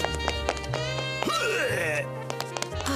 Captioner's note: gags